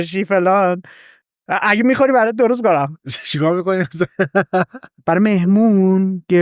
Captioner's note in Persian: خنده